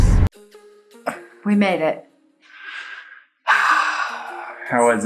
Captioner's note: sighs